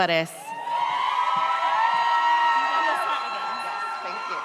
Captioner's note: audience cheers